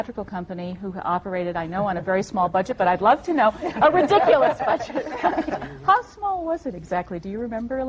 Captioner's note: laughter